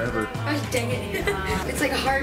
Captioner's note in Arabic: يضحك